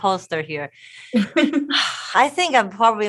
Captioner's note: laughing